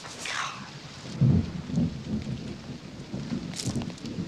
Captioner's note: thunder